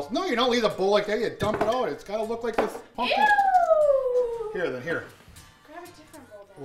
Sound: whoooooo!

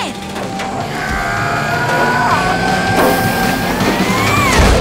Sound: grunting

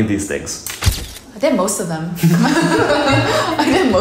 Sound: laughing

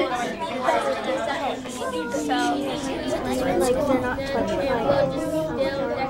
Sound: student chatter

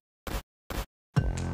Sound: glitch sound; struggling type beat cuts in

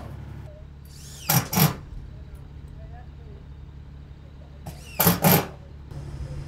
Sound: machine drilling and hammer banging; machine engine rumbling continues

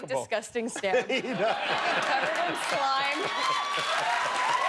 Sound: laughter

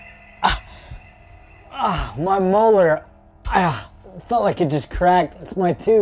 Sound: grunting

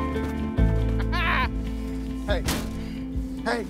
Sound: laughs

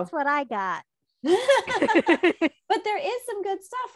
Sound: both laugh

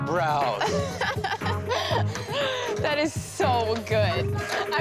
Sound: girl's laugh

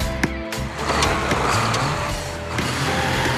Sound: engine Revs

